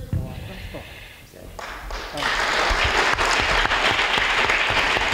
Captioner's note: applause